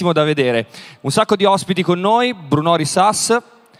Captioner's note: speaks in Italian – not transcribed